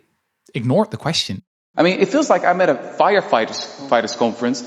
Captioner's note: soundbite of archived recording